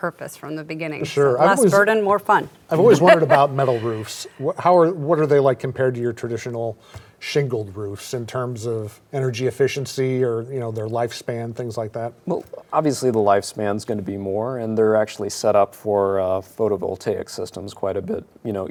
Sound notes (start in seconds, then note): 2.8 laughs